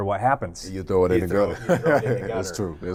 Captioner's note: laughs